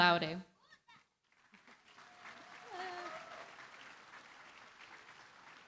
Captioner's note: applause